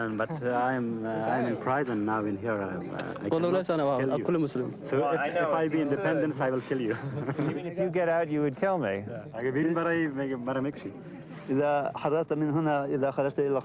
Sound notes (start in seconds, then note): 6.8 men chuckling; 9.5 men speaking in foreign language